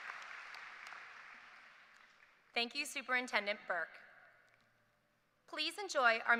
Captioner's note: applause